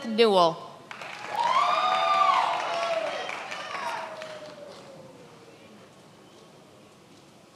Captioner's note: many applauding